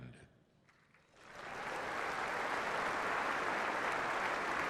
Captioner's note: applause